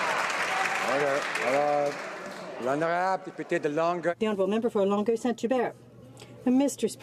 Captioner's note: some Applause